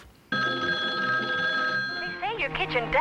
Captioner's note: telephone ringing